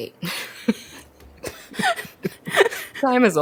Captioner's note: both laugh